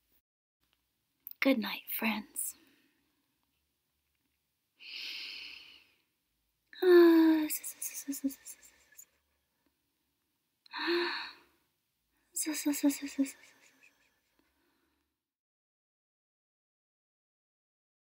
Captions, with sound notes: Goodnight, friends. [gentle snoring]